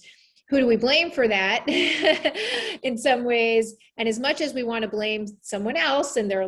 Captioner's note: laugh